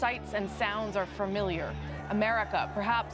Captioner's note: shouting